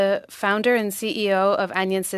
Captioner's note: speaking French